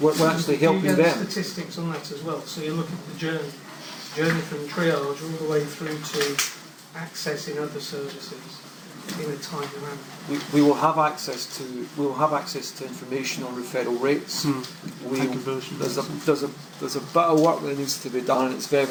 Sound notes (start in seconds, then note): 11.2 voiceover